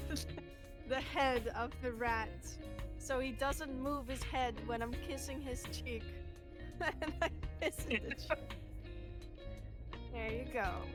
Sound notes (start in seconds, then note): 6.7 laughs